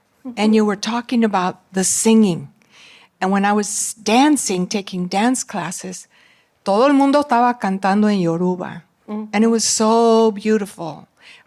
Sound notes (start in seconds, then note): 6.6 non-english